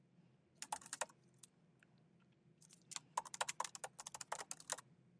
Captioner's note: keyboard clanking